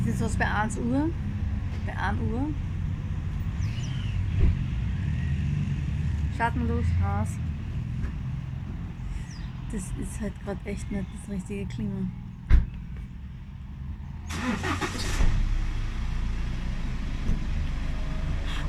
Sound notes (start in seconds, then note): 14.4 car starts